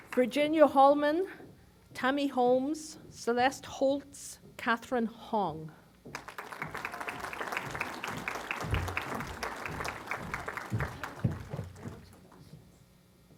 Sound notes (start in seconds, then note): 6.1 applause